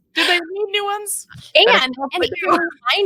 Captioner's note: speaking faintly